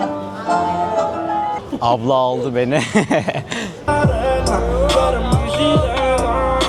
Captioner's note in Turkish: kahkaha